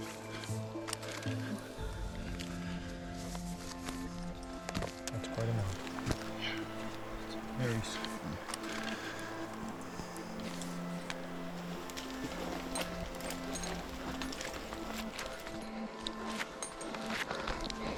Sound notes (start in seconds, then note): 1.4 climbing sounds; 12.5 heavy breathing